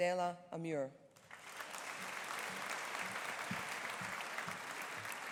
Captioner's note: audience applauding